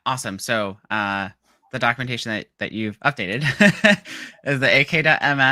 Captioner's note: laughing